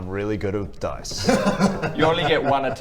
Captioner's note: hahaha!